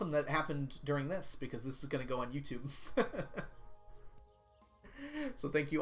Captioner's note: laughs